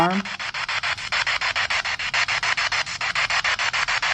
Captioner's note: spirit box sound